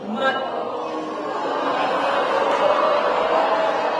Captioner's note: rising laughter